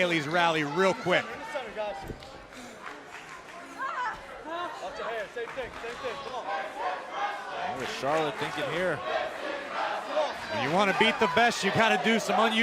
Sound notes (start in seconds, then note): 6.1 fans chanting